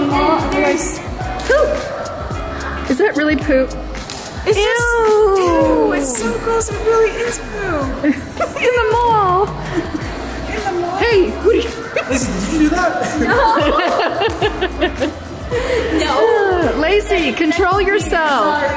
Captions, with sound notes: And there's poop. - Is that really poop? - Ew! That's so gross, it really is poop! - In the mall! - Lizzy, did you do that? - No! (laughing) - Lacy, control yourself!